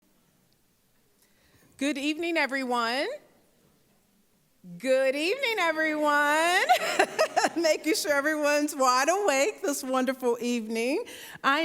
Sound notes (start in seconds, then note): 6.6 laughing